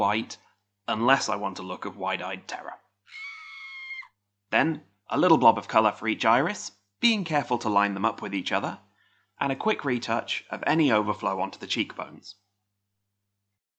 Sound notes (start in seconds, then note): 3.1 distant scream